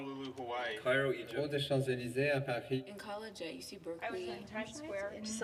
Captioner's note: speaking foreign language; speaking in foreign language